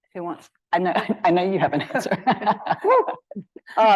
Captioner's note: laughs